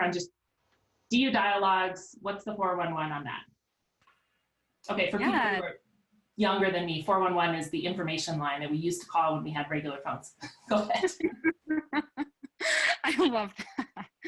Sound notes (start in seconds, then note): 10.5 ladies giggling